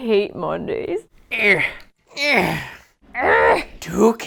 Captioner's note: Folks grunting like Yoda